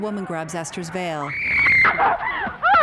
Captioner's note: Esther screaming; Esther sobbing